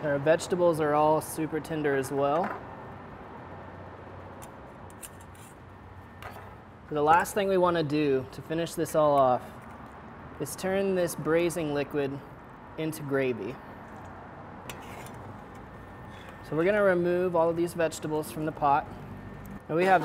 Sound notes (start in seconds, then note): 4.7 metal clinks